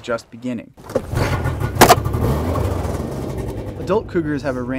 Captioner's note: engine revs